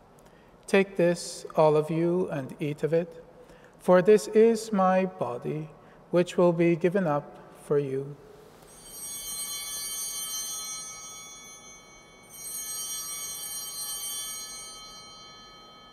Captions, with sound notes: "Take this all of you and eat of it, for this is my body which will be given up for you." (Chimes ringing)